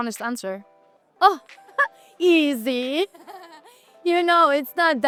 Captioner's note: giggles